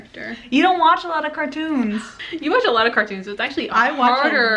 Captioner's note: sighs